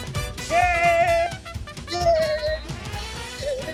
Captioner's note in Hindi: खुशी से चिल्लाते हुए